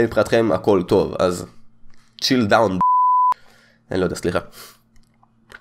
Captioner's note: beep